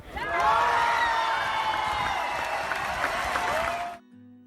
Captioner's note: crowd cheering loudly